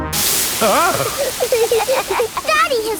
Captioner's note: laughing